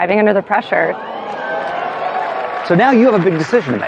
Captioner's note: contestants gasp